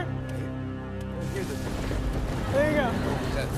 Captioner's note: thunder crashes